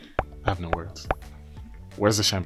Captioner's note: circles popping